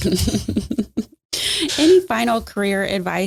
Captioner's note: laughing